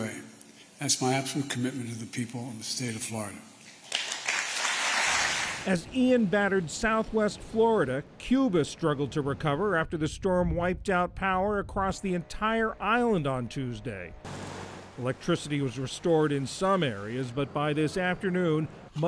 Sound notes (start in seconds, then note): 3.8 applause